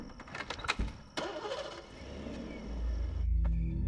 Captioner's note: car engine starts